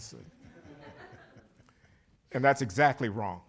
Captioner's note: laughter